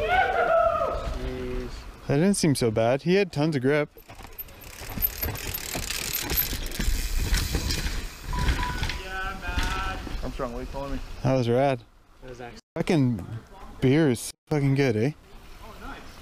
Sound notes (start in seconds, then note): 0.0 cheering; 3.8 bicycle squeaking